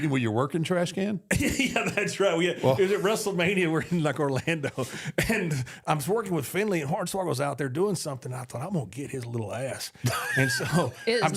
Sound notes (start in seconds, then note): 1.3 laughs; 10.0 both laugh